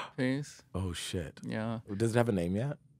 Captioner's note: gasps